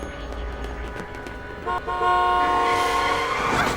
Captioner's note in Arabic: بوق بوق; صراخ المكابح